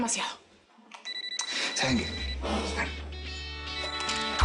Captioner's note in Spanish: Suena celular